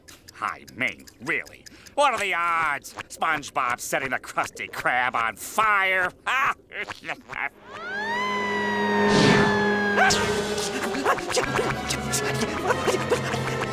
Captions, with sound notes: I mean, really? What are the odds? SpongeBob setting the Krusty Krab on fire? [laughing] [siren wailing] Aah! [panting]